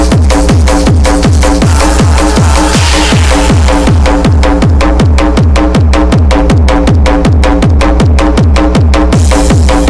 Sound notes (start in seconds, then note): 1.6 scream; 1.7 distant screams